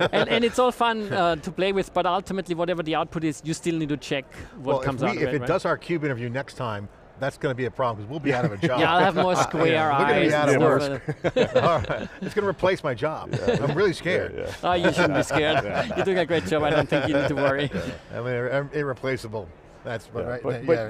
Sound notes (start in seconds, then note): 11.2 all laughing; 13.2 laughing